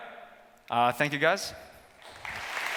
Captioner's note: applause